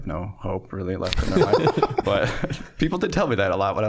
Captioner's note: all laughing